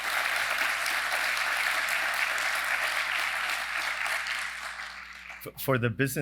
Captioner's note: applause